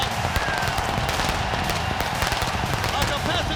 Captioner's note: fireworks crackling